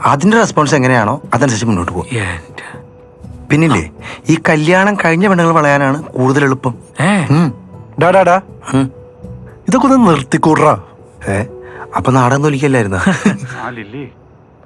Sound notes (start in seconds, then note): 13.0 chuckles